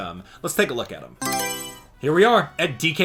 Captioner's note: Mario Selection Sound